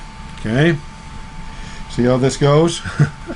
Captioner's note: laughing